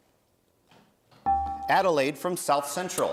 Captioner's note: bell rings